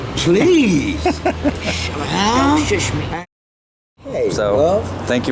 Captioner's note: laughing